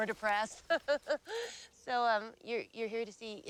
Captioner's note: laughs